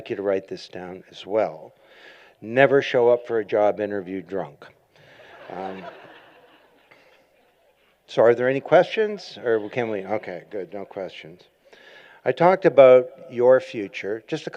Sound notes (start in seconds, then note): 5.0 laughter